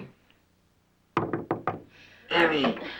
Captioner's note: knocking on door